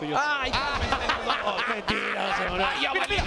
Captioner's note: laugh